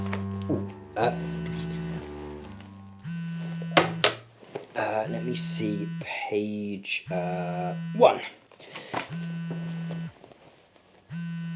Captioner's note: sound of phone vibrating